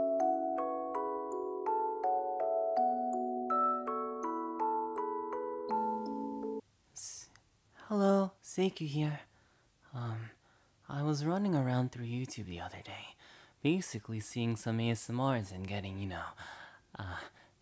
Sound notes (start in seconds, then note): none